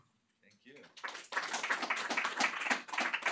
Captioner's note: applause